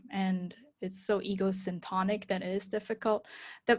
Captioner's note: none